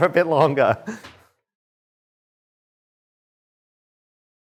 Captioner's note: chuckles